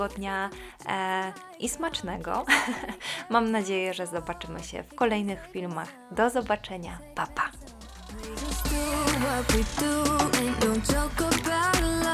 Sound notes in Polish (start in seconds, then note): 2.4 śmiech